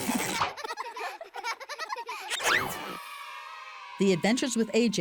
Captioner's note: children laughing